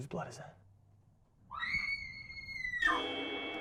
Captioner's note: piercing scream